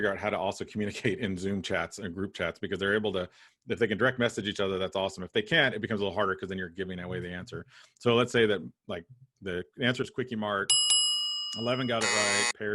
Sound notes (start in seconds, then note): 10.7 bell dinging; 11.6 buzzer ringing